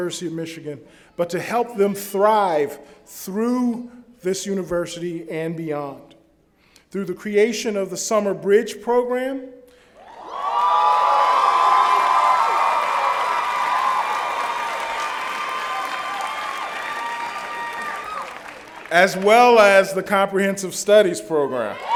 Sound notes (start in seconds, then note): 10.0 cheering